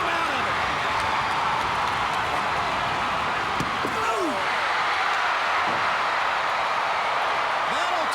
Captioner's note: crowd cheering